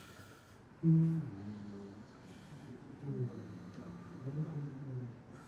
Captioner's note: hums